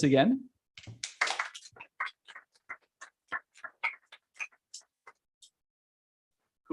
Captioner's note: applause